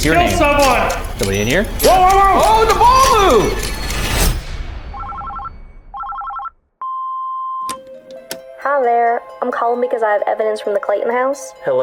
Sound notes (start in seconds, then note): 5.9 phone ringing; 6.7 beeping; 7.8 dramatic music